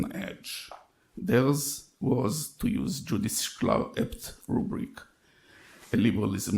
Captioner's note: speaks in foreign language